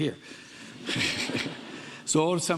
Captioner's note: audience laughing